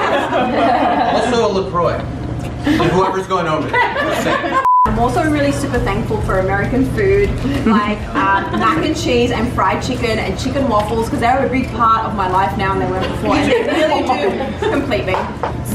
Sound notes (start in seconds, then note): 0.0 laughter; 4.6 beep